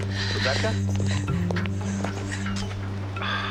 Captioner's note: sobbing